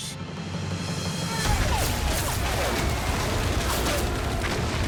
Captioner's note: bullets whizzing